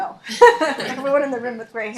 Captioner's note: laughs